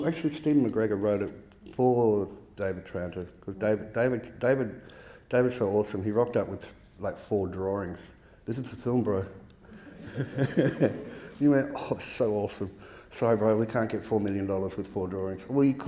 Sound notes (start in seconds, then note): 9.7 audience laughing